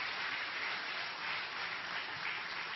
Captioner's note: applause